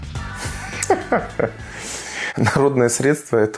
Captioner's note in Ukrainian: сміх